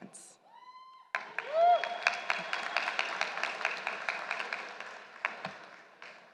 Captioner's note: applause